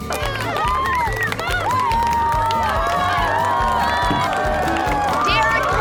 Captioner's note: cheering, applause